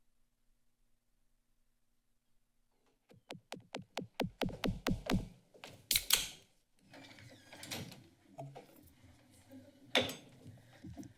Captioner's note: silence